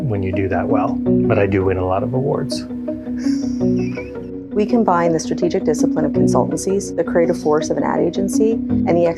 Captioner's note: laughs